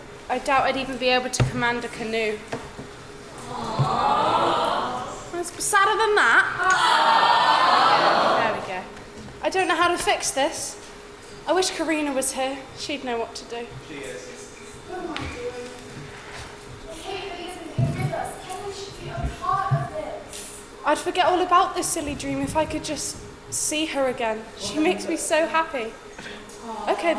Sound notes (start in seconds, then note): 3.3 audience awws; 8.5 audience awws; 26.9 audience laughs